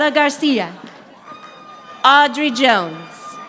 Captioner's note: audience applauding